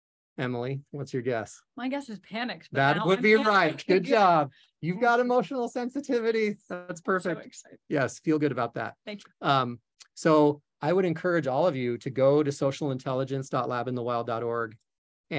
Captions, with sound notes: Emily, what's your guess? - My guess is panicked, but now... - That would be right. (chuckles) Good job. You've got emotional sensitivity, so that's perfect. - So excited. - Yes. Feel good about that. - Thank you. - So I would encourage all of you to go to socialintelligence.labinthe wild.org